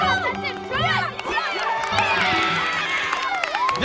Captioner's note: cheering